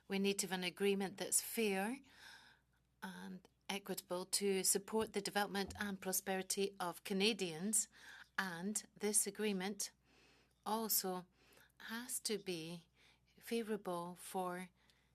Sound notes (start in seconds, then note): 4.0 speaking French